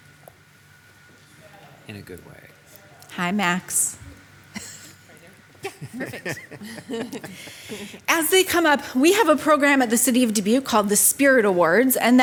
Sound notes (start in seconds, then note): 5.6 laughing; 5.6 laughs